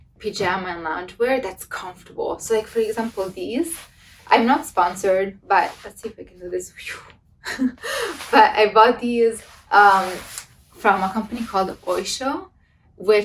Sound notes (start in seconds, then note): 7.5 laughs; 7.8 blows air